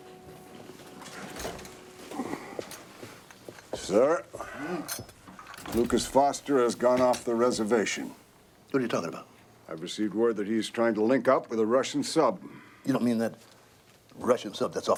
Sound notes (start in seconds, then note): 2.0 footstep